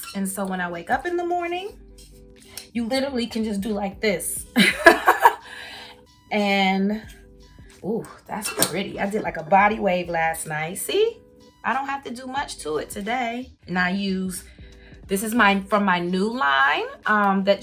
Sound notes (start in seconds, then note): 4.6 laughs